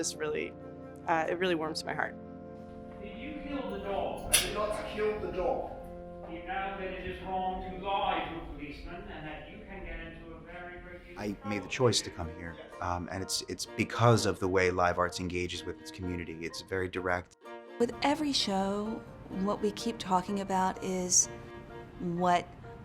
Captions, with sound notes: And it really warms my heart. [Background Speech] I made the choice to come here, and it's because of the way Live Arts engages with its community. It's very direct. With every show, what we keep talking about is